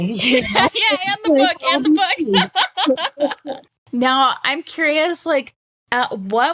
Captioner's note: laughing